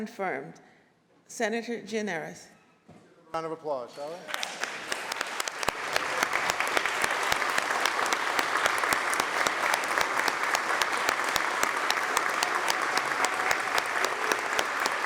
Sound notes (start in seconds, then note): 4.2 applause